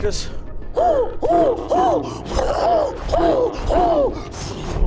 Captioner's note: hoots and growls